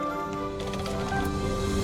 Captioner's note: device rumbles